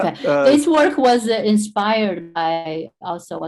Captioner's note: speaking in foreign language